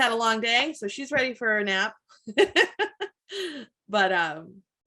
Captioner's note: laughs